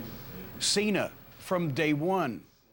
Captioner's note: none